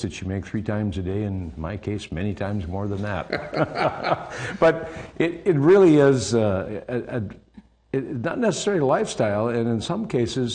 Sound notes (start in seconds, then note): 3.2 laughing